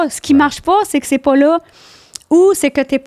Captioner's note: in french